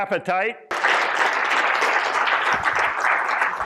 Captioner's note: applause